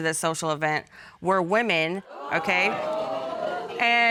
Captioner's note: audience exclaims